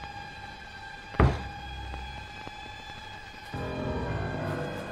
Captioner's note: thudding; foreboding music